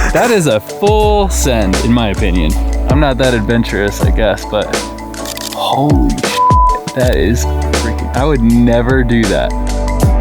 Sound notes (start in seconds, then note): 6.3 beep